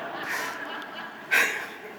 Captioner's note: audience laughing